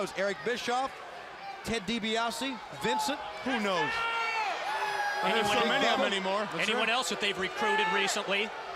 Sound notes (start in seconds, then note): 6.5 crowd cheering